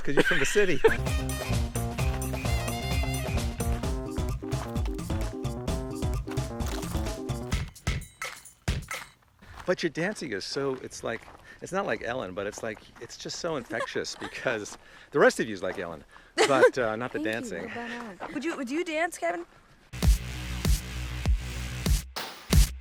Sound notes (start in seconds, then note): 0.0 laughing; 1.0 gentle upbeat music; 16.4 laughs; 20.0 upbeat music